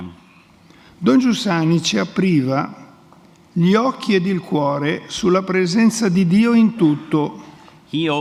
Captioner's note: speaks in Italian